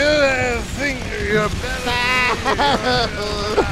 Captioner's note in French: pleurs